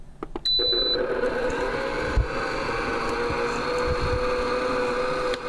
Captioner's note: stand mixer whirring